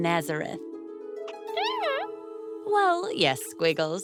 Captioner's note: caterpillar noises